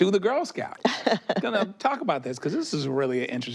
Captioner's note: she laughs